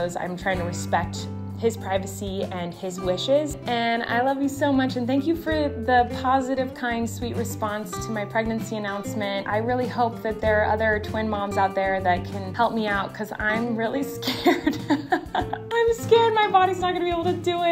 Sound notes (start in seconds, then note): 14.2 laughs